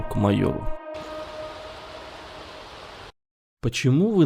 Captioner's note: rain